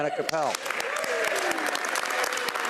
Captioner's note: laughing; speaking French